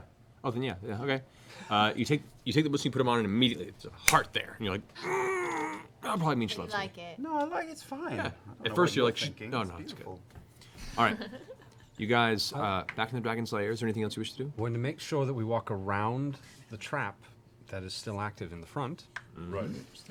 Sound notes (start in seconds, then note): 5.0 pained